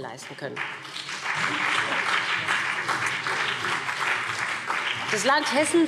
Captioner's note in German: Beifall BÜNDNIS 90/DIE GRÜNEN und CDU